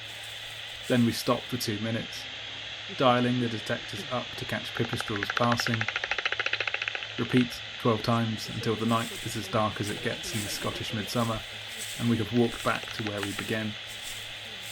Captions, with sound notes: Then we stop for two minutes, dialling the detectors up to catch pipistrelles passing [clicking and slapping bat calls] Repeat twelve times until the night is as dark as it gets in the Scottish midsummer and we have walked back to where we began